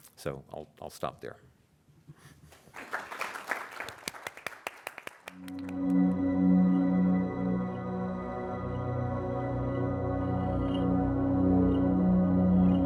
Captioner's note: applause